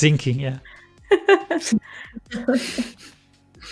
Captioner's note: laughter